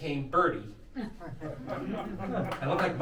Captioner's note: crowd laughing